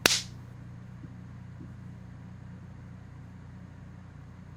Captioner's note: punch resounds